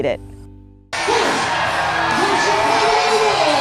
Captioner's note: crowd cheering